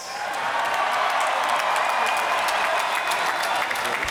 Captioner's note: cheers and applause